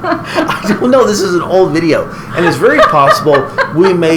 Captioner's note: laughing